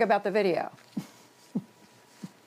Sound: laughter

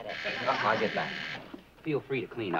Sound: door buzzing

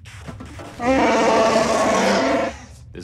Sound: wookie roar

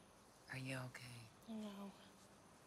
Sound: none

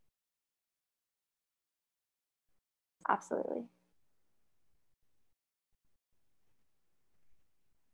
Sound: silence

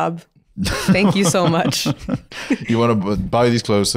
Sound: laughs

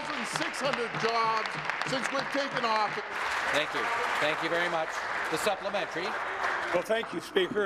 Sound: applause

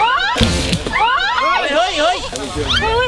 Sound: screams

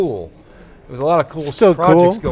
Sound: laughs

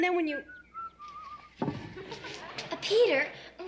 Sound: whistling

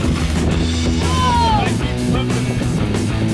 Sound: shouting; fast rock music

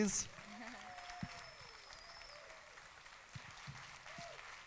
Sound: audience applauding

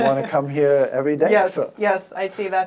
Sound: laughs

